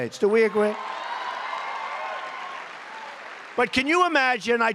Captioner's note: applause